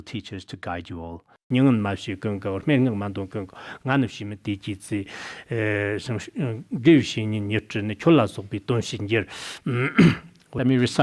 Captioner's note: citing scripture in Tibetan